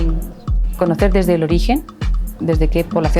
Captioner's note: speaking spanish